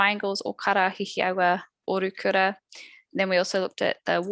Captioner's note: non-english speech